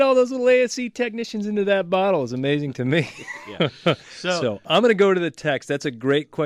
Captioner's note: laughs